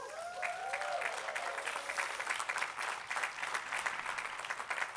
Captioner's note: attendees clapping